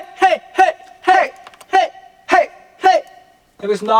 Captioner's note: "Hey! Hey! Hey!" echoing through the booth